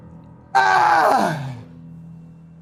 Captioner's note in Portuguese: grito de ódio